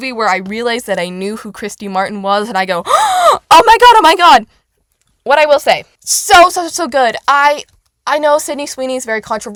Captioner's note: gasp